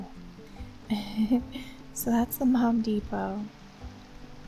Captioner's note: quiet giggle